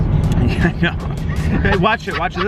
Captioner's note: laughs